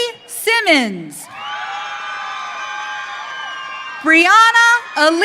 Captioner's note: audience cheering